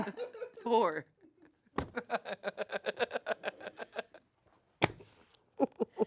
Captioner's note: laugh